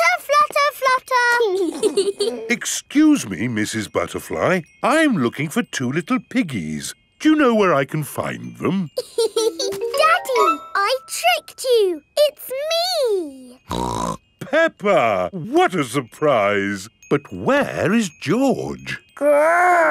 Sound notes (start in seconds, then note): 1.7 both giggling; 9.0 laughs; 13.7 snorts